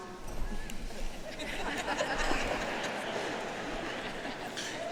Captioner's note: audience laughing